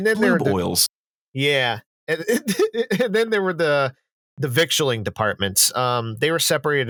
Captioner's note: laughing